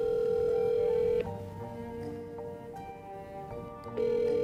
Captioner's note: phone ringing